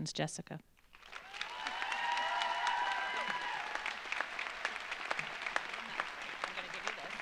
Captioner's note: audience applauds; audience cheers